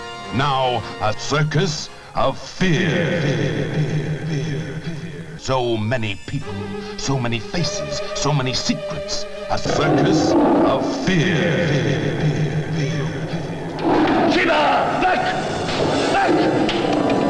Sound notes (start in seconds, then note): 3.0 voice echoing; 11.1 voice echoing; 16.2 roaring